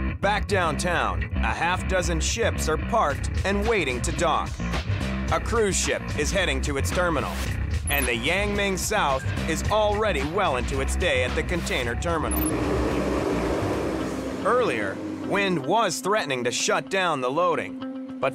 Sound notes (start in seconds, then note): 11.6 engine revving